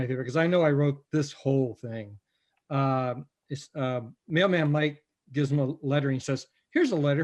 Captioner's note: none